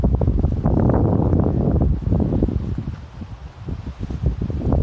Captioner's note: wind blowing in microphone